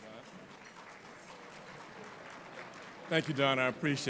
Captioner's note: applauding